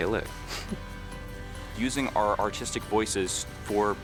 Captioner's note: laugh